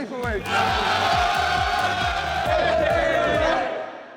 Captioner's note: cheering